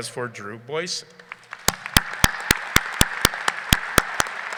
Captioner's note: people clapping